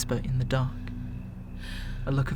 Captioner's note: panicked breathing